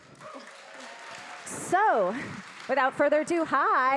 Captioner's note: audience clapping